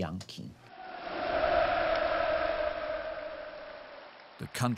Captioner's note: people cheering